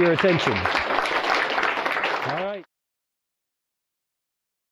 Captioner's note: applause